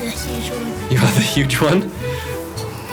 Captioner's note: laughs